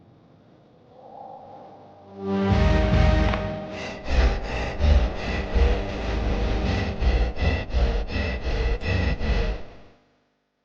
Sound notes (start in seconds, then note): 0.9 tense music; 2.4 creature panting